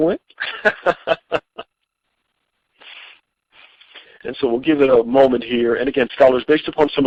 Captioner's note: chuckling